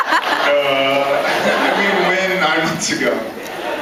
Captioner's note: laughing; laughs